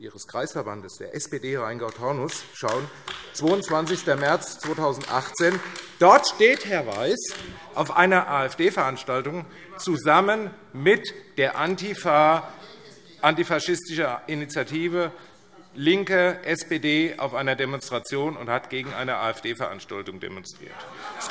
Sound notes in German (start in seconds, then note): 5.5 Beifall AfD - Zuruf SPD: Es geht um Ihre Aussage!